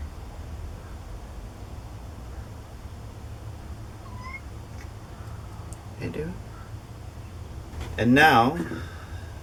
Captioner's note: meow